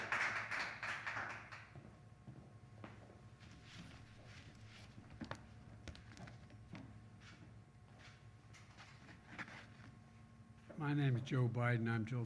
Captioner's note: applause